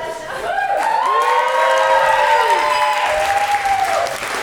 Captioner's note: cheering and applause